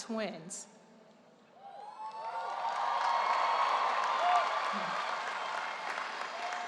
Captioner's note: audience cheering and applause